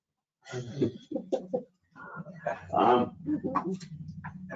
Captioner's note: group laughs